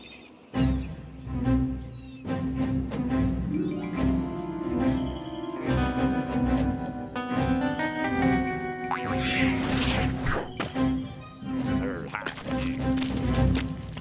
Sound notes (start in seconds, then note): 8.9 legs boing